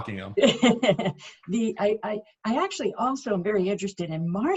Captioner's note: laughs